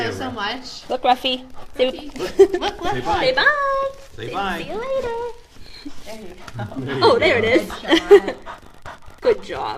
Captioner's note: laughter